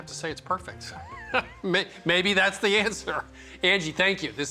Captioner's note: laughs